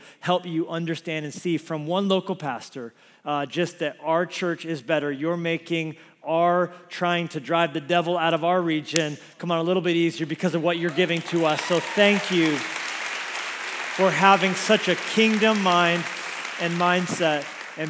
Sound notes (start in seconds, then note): 10.8 congregation applauds